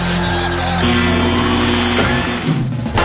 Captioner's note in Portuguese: campainha e aplausos